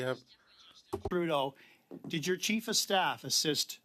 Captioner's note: speaking French